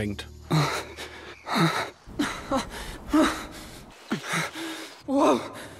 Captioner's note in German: Übertriebenes Stöhnen